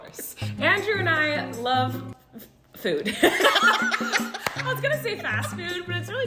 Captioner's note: laughter